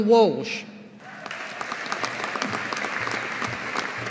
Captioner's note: audience applauding